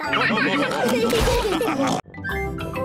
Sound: all laugh

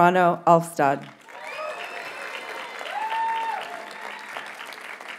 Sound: audience cheers and applauds

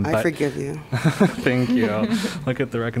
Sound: laughter

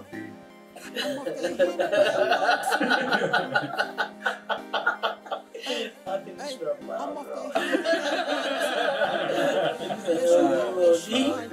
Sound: laughter

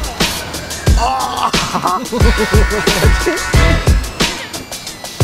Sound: laughing

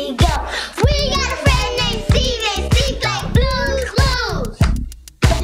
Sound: kids, in unison

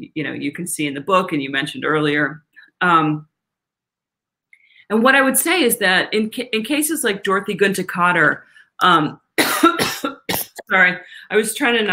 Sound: coughs

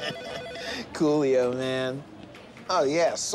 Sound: laughing

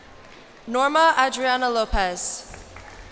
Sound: cheers and applause

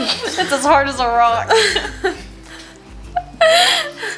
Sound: both laugh

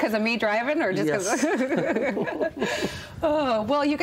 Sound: laughter

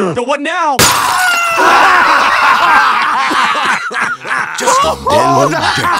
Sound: laughs

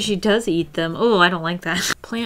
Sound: laughs

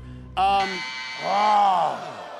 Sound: buzzer

